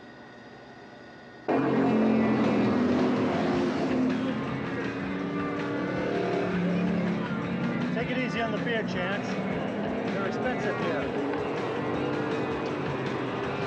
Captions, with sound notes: (engines rumbling) (rock music) - Take it easy on the beer, Chance. They're expensive here.